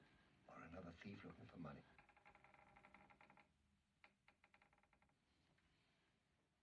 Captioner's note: creaking